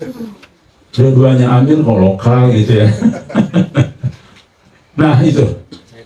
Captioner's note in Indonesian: tertawa